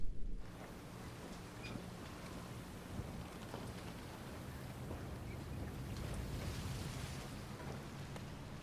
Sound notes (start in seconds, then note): 0.6 seagulls mewing; 1.7 waves lapping